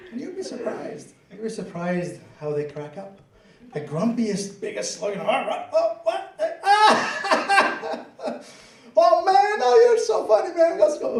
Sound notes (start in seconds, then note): 0.0 laughter; 5.0 grunting; 5.4 laughing